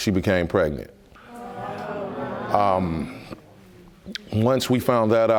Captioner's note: audience murmuring